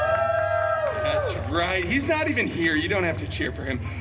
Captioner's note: guests cheering and applauding